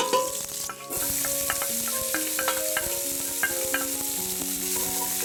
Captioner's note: sizzling